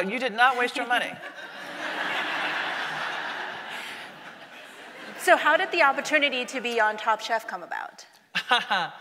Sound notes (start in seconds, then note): 1.2 audience laughing; 8.4 laughs